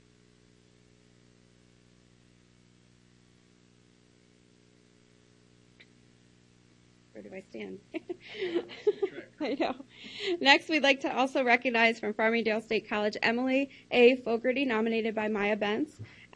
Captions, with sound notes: Where do I stand? (laughs) Next, we'd like to, also, recognize, from Farmingdale State College, Emily A. Fogarty, nominated by Maya Bentz.